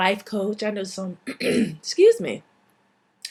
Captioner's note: clears throat